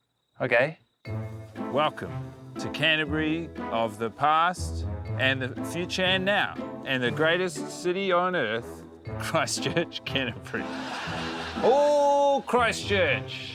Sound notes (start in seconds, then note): 9.6 laughter; 10.1 laughs